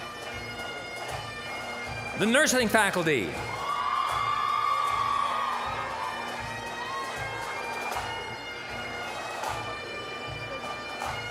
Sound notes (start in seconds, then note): 0.1 bagpipe music; 2.2 applause, cheering; 3.5 bagpipe music